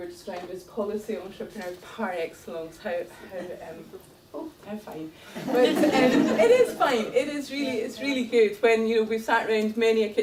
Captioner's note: laughter